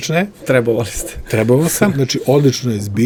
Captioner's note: laughs